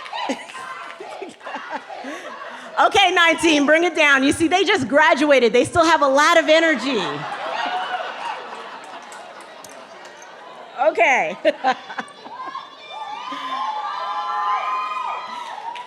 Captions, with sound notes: (audience chanting) Okay, 19, bring it down. You see, they just graduated, they still have a lot of energy. Okay. (laughing and cheering)